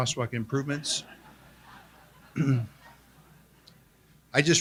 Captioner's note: attendees laugh